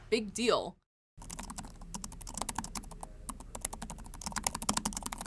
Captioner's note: keyboard clacking